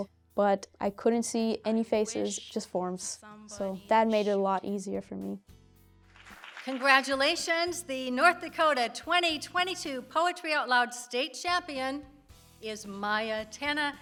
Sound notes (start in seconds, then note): 6.0 crowd clapping